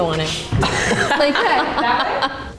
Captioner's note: laughter